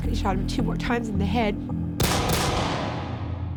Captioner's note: gunshots